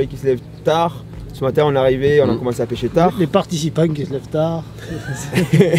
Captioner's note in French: rires